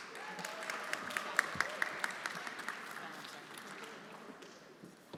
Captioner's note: everyone applauding